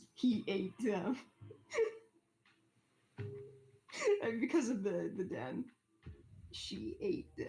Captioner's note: laughs